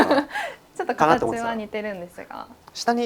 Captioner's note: laughs